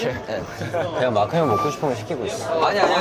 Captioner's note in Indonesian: Hahaha